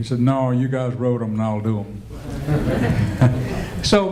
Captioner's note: laughter